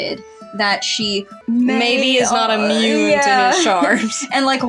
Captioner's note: stammer; chuckle